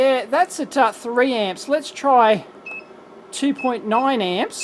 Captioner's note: beeps